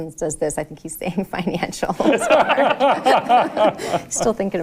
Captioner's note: laughing